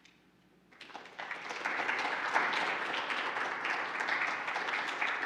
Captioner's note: applauding